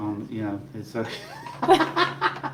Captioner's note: laughing